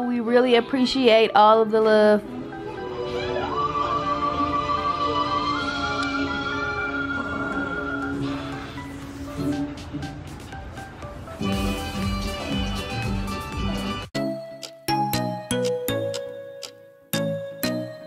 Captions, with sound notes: We really appreciate all of the love. (TV playing in background) (upbeat music)